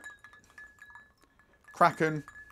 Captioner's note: ice clinking